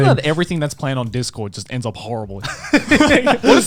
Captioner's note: laughing